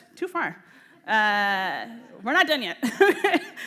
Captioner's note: laughter